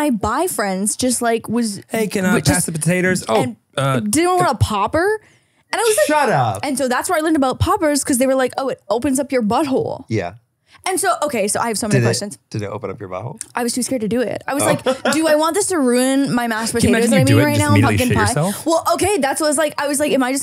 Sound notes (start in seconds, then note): 14.5 laughs